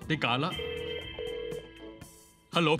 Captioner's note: phone connected